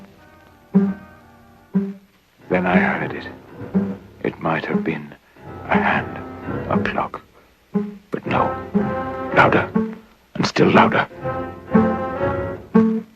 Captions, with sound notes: (PLUCKING SOUND) THEN I HEARD IT. (PLUCKING SOUND, LOUDER) IT MIGHT HAVE BEEN A HAND. (PLUCKING SOUND, LOUDER) A PLUCK. (PLUCKING SOUND, LOUDER) BUT, NO. LOUDER. AND STILL LOUDER. (PLUCKING SOUND, EVEN LOUDER) (INTENSE MUSIC PLAYING)